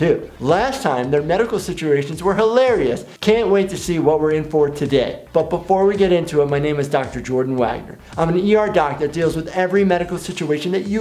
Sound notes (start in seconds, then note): none